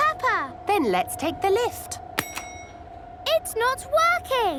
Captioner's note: lift pings